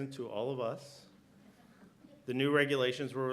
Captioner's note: laughter